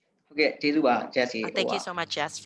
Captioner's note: speaking burmese